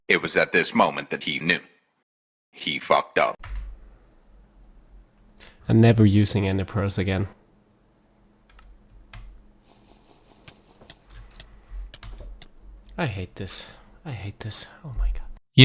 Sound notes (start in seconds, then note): 9.7 damage ticking; 9.7 potion slurping